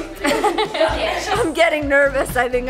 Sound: laughing

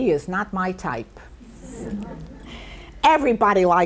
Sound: people in audience laugh

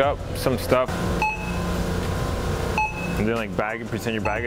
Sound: electronic pinging

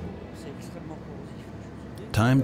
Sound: speaking French

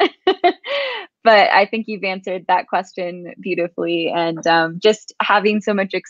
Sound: laughs

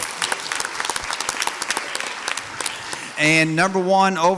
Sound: audience applauds

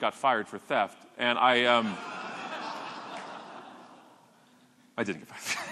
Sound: audience laughing

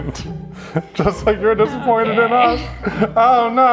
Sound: laughing

